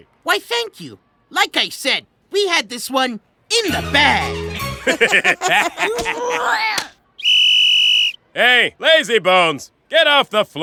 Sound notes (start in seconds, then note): 3.7 laugh; 5.8 grunt of effort; 7.1 blows whistle